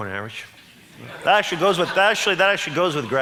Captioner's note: audience laughs